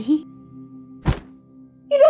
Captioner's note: thud